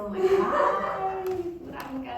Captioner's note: audience laughing